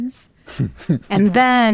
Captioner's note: chuckles